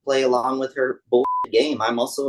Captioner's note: beep